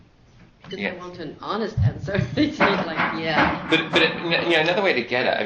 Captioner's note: laughs